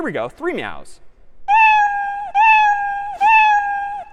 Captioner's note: meowing